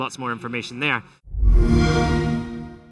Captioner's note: xbox sound